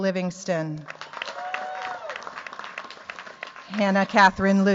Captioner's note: cheers, applause